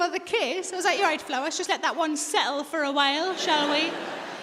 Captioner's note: audience laughing